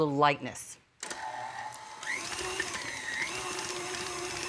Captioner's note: mixer whirring